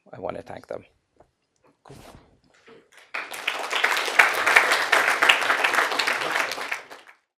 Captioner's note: applause